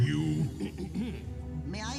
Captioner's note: clears throat